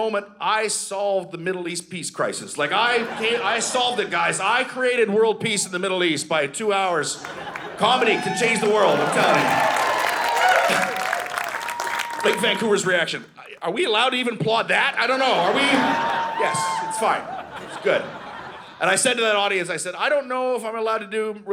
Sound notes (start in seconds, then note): 2.7 audience laughing; 7.0 audience laughing; 9.5 audience cheering; 18.0 audience laughing